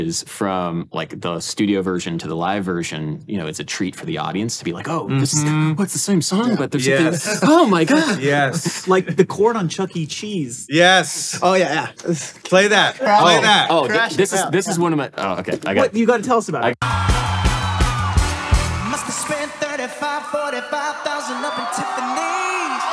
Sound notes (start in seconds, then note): 16.8 crowd cheering